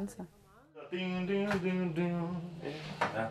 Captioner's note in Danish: nynner